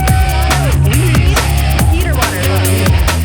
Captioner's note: cheering